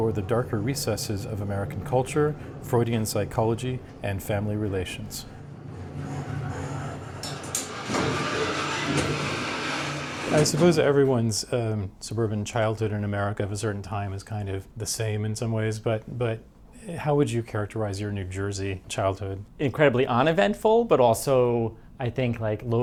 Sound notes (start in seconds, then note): 5.4 mechanical sounds